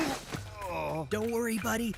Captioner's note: Sam Groaning